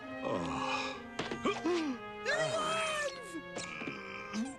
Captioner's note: groans